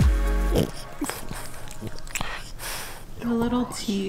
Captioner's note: dog growling